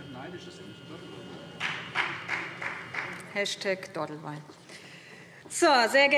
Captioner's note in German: Beifall